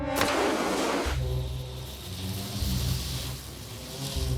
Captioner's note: flame crackling